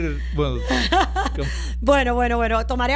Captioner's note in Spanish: Risas